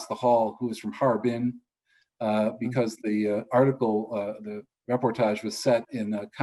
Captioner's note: speaks foreign